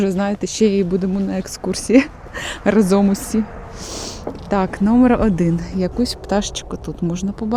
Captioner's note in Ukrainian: сопіння